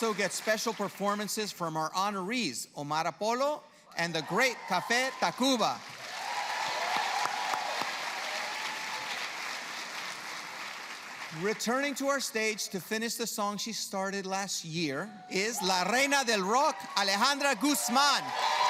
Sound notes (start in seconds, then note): 4.7 applause; 18.5 audience cheers